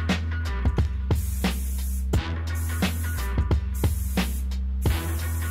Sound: spray can hissing

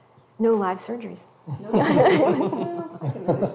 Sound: all chuckle

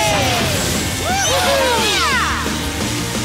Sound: cheering

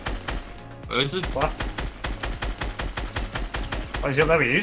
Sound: guns firing

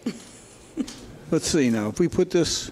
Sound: chuckles

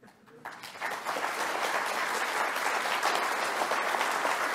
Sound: audience applauding

